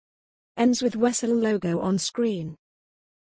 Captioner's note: voiceover